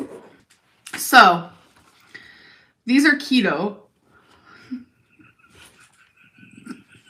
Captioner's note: laughs